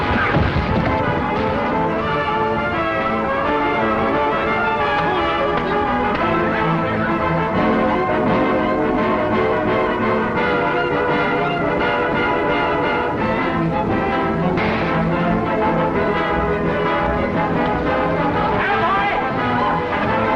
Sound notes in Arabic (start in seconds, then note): 0.2 تشغيل موسيقى درامية; 3.0 اصوات القتال; 5.3 تشغيل موسيقى درامية